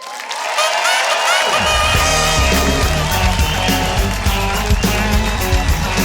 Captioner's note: audience applauding